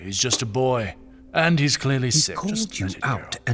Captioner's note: interrupting, frustrated